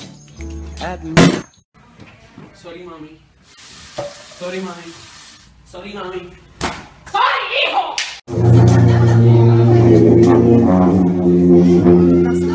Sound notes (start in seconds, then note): 1.3 slam; 6.9 yells in Spanish; 9.5 sousaphones imitating lightsaber noises